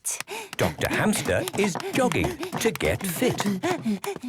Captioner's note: panting